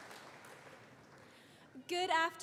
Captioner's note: applause